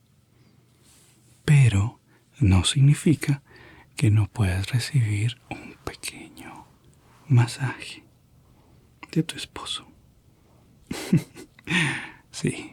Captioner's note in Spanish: risas